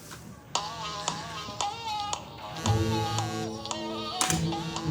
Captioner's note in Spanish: Suena el celular